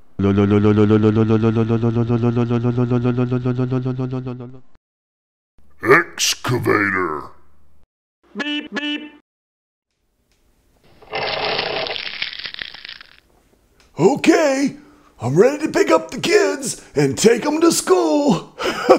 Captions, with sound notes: Excavator. [beep, beep] OK, I'm ready to pick up the kids and take them to school.